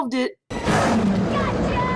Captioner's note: echoing roar